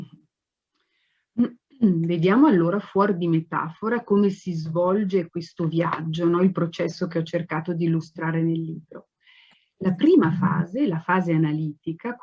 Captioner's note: speaks Italian